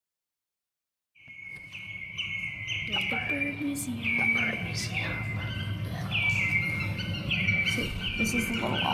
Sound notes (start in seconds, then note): 1.2 birds chirping